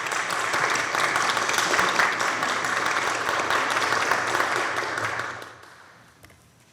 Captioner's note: applause